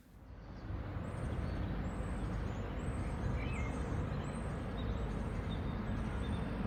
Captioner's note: outdoor sounds